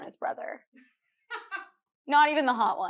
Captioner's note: producer laughing